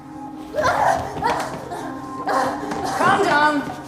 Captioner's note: Aleks grunting